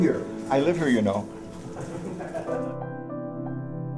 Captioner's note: chuckles